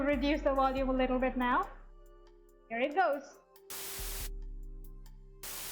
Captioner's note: white noise